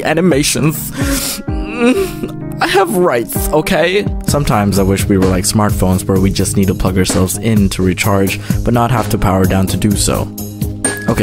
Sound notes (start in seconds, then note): 0.9 sniffle; 1.4 moan